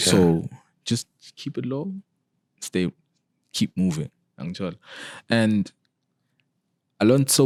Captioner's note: none